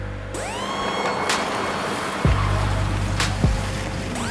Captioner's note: car engine humming